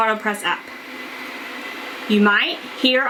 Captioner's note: Autopress motor hums